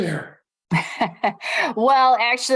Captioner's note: laughter